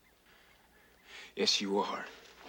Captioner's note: footsteps